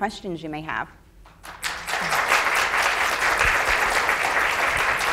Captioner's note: audience applauds